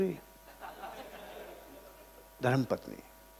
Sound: laughing

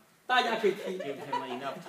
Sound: speaking foreign language; group laughs

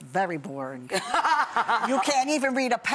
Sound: laughing

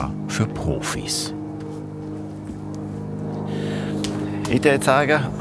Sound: distant roar, probably an airplane

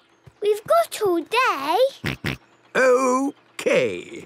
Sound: snort

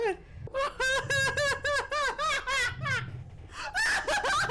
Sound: laughs

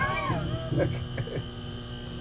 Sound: laughs

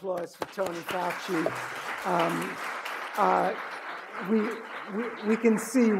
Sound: audience applauding

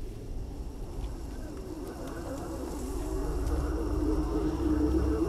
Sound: dissonant sound effects

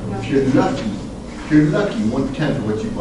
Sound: group mumbles

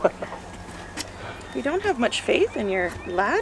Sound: laughter

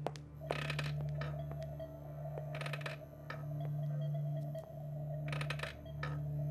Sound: sound of wood creaking

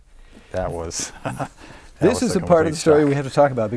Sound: laughing

